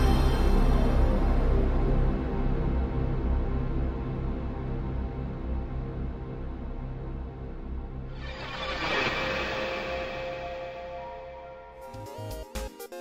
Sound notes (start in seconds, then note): 2.4 sounds reverb; 8.2 reversed glass shattering